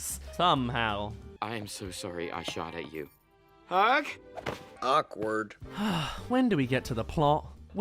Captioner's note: sigh